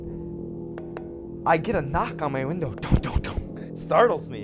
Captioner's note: imitates knocking sound